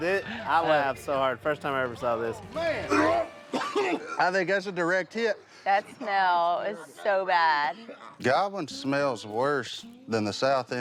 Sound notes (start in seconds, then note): 3.2 heaving